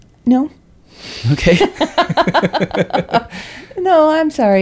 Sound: laughs

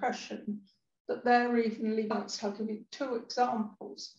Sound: sound distorts

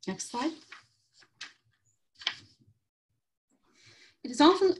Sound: paper shuffling

